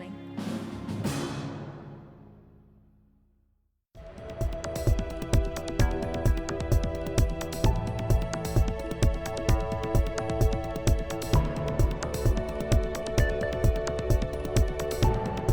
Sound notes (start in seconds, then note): none